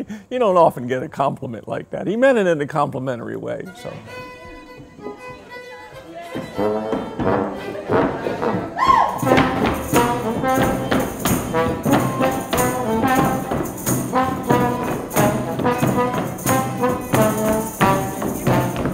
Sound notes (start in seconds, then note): 0.0 chuckling; 4.5 lively music; 10.3 footsteps thudding